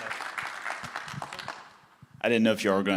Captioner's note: applause